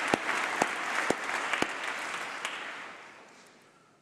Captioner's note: applause